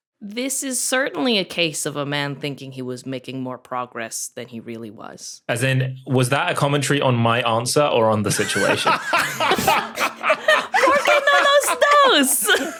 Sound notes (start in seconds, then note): 8.3 others laugh uproariously